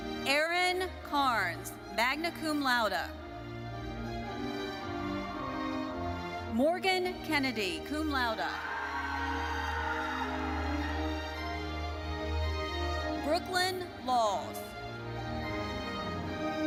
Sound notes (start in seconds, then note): 8.4 audience cheering